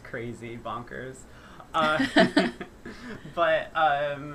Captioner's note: laughter